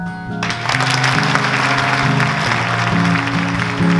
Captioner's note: clapping